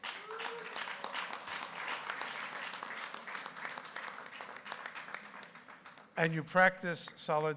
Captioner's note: applause